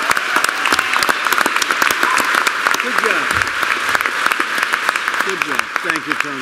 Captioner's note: applause